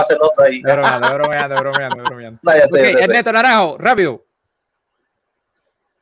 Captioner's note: laughs